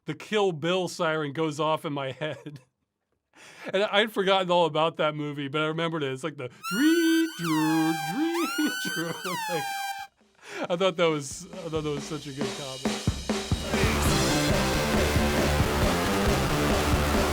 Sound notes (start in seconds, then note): 6.6 siren plays; 6.9 imitates Kill Bill Ironside siren